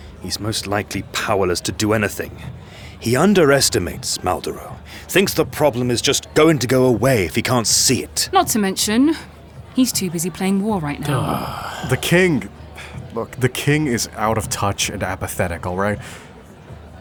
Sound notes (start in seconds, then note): 11.0 sighs